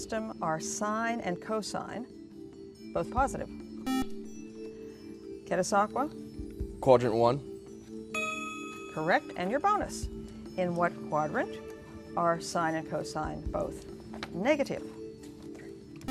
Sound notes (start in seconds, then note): 3.8 buzzer